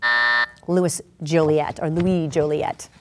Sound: buzzer going off

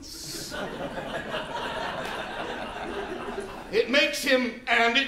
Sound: laughter

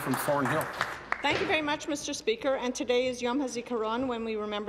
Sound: speaking Alternate Language

